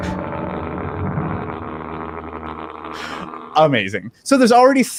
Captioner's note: combination of high and low pitched noises playing